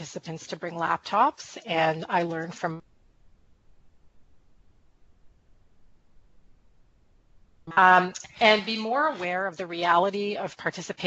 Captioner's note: audio cut out